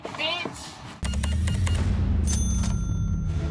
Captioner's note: cash register beeping, dings